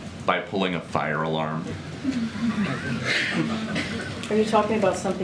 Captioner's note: laughter